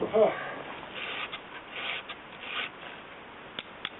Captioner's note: birds singing